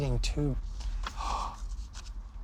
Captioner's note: gasps